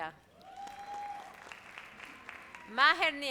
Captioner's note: audience applauds